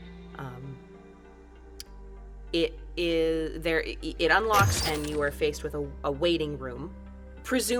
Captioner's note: door opens